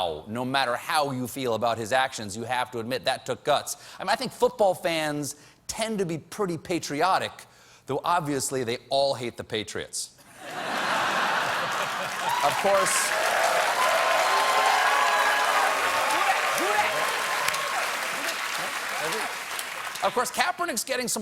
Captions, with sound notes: I THINK FOOTBALL FANS TEND TO BE PRETTY PATRIOTIC. THOUGH, OBVIOUSLY, THEY ALL HATE THE PATRIOTS. (LAUGHTER) (CHEERS AND APPLAUSE) OF COURSE, KAPERNICK'S GETTING SOME BLOWBACK FROM HIS FELLOW PLAYERS-- NEW YORK GIANTS LINEMAN JUSTIN PUGH TWEETED, "I